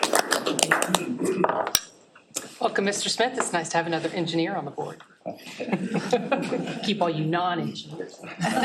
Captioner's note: applause